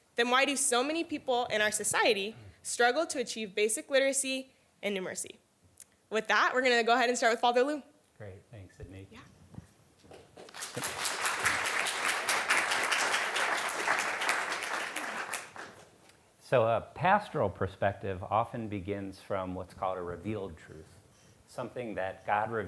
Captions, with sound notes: then why do so many people in our society struggle to achieve basic literacy and numeracy? With that, we're gonna go ahead and start with Father Lou. Great. Thanks, Sydney. Yeah. (applause) So, a pastoral perspective often begins from what's called a revealed truth. Something that God